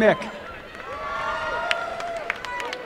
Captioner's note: applause